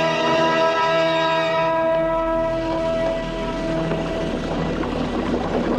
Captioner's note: sizzling